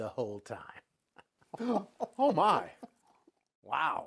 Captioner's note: gasps